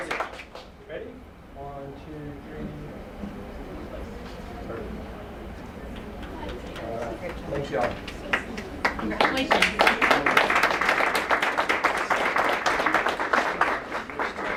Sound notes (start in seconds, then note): 0.0 applause; 2.7 applause